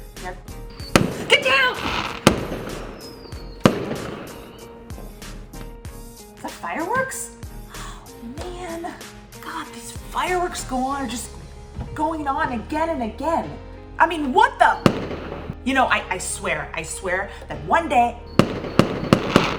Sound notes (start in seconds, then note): 14.8 firework sound; 18.3 multiple firework sounds